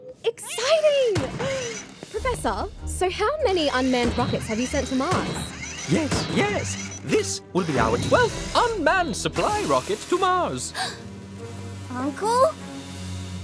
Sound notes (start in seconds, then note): 11.0 gasps